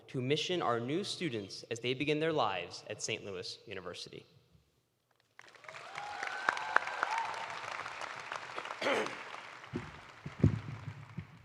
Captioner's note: cheers and applause